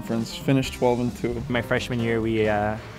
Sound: voiceover

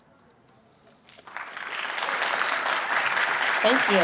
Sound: applause

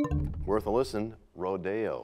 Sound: bell chimes, time expires

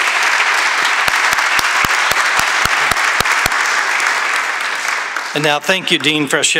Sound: applause

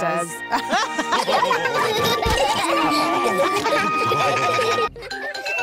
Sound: all laugh; children giggling

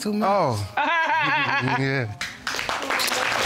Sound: judge laughing; audience applauding

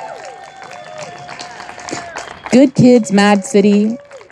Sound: audience applauding and cheering

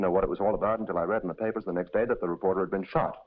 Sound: none

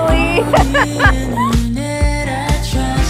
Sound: both laughing

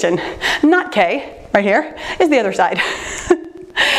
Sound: laughing

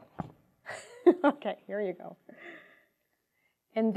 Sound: laughing

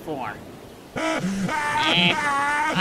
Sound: Wario screams

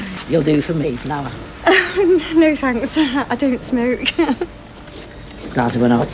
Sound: laughs

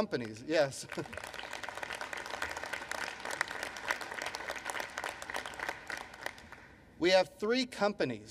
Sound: applause

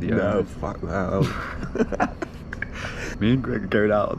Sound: both laugh

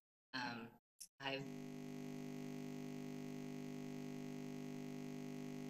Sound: electric buzzing

